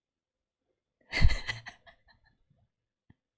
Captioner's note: laughs